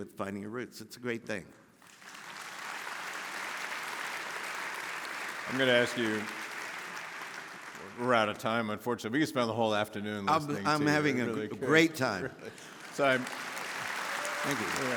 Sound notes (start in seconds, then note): 1.8 audience applauding; 12.4 audience applauding